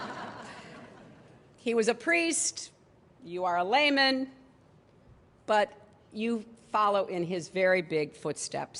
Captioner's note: laughter